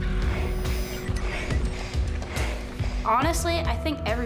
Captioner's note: panting